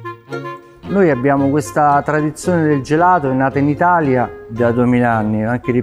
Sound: speaking in foreign language

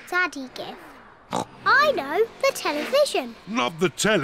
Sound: oinks

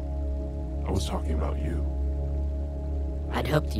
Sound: low Voice

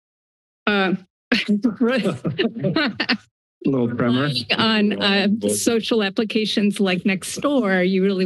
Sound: laughter

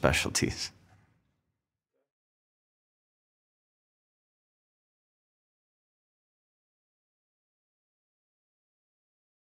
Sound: silence

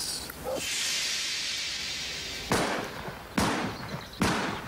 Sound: guns firing

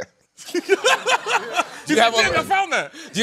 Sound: laughter

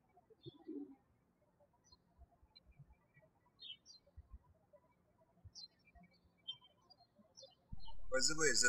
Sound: birds chirping

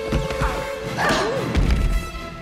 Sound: grunting

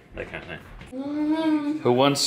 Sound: humming

